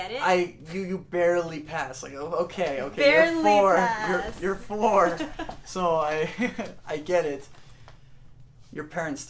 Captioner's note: laughter